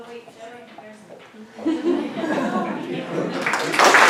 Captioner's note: laughter; applause